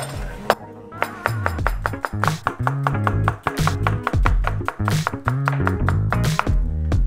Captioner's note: lively music; knife chopping; lively music